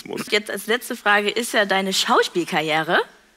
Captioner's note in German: none